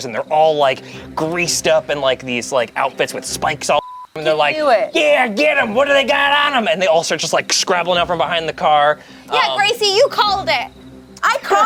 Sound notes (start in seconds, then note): 3.7 beeps